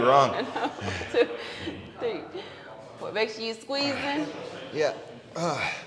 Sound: laugh

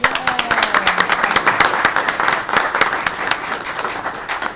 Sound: audience clapping

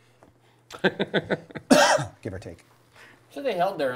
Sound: laughing

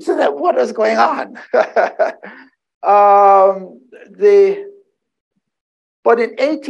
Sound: laughs

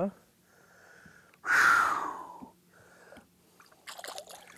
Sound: sighs

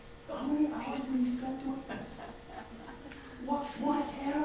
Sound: audience laughs

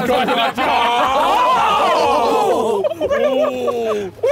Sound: all laughing

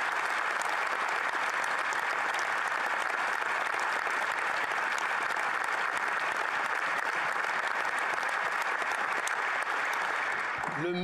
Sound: applause

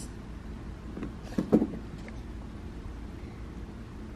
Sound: thump

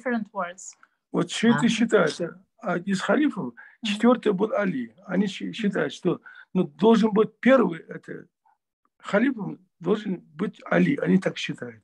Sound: in Russian

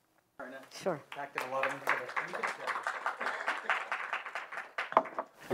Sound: applause

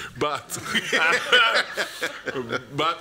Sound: laughter

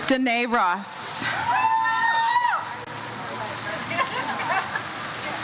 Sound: audience cheers

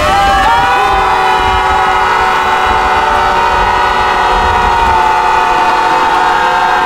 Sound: shofar blast and screams

